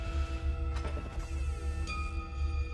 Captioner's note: door creaks